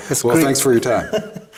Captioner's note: laughs